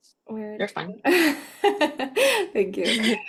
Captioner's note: laughs